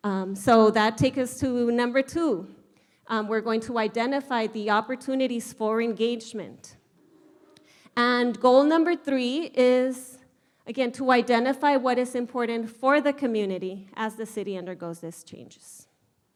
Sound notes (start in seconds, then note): none